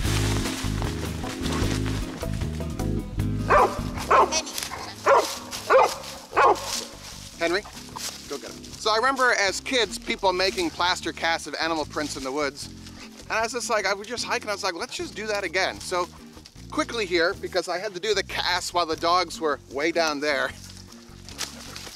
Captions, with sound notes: (dogs barking) Henry, go get it. So I remember as kids, people making plaster casts of animal prints in the woods and I was just like, I would just hike and I was like, let's just do that again. So, quickly here, because I had to do the cast while the dogs were way down there.